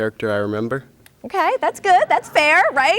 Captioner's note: audience laughing